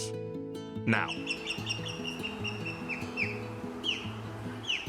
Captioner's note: osprey calling